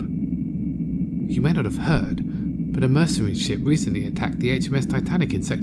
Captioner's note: whispering